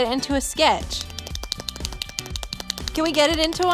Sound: hands slapping

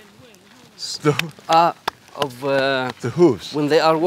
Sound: clapping

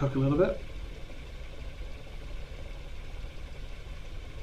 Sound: steam bubbling

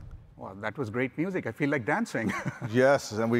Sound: laughs

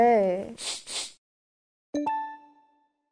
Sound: sniffs

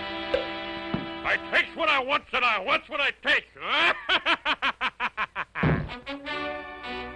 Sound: laughs

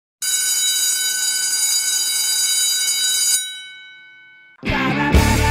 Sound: bell ringing

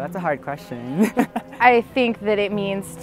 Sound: laughing

